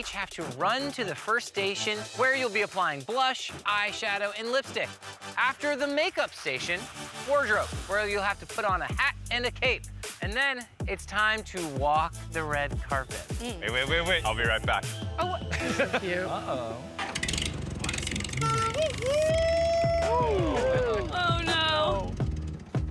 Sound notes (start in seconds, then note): 18.0 honks horn; 18.8 cheers